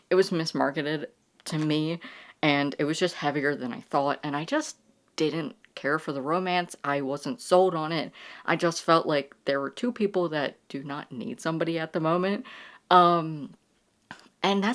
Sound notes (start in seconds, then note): none